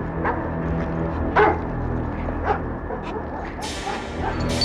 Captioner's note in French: chiens qui jappent